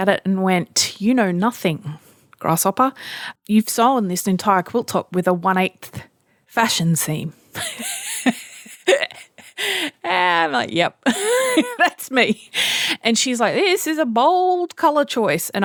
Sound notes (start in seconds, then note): 7.5 laughing; 11.4 laughs